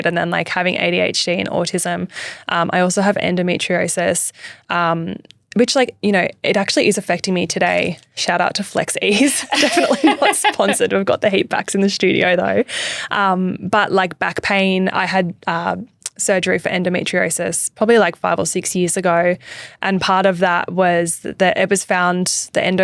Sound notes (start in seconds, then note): 9.2 laughing